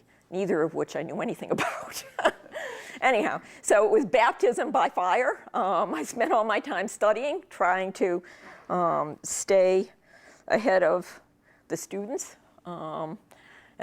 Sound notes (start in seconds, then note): 2.0 laughs